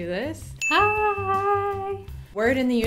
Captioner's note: ding